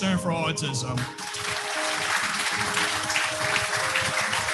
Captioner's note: applause